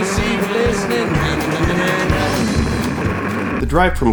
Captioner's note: car engine roaring